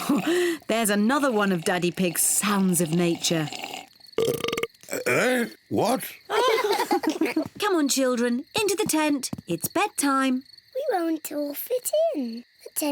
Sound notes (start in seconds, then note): 0.0 slurps; 3.8 burps; 6.3 all laugh